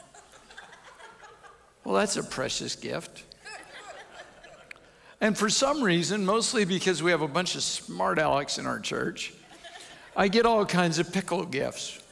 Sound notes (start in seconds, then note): 3.5 audience chuckles